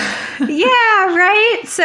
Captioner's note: laughter